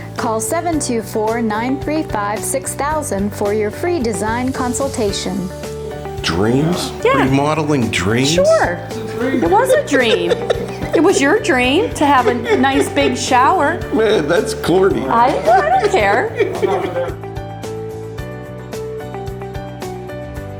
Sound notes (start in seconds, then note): 9.3 laughs; 16.7 laughs; 17.8 upbeat music